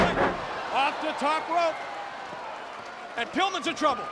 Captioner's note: body thudding